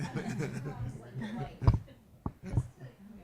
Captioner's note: laughing